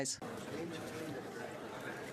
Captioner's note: speaking French